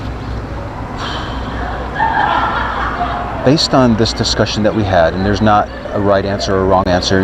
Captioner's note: deep breath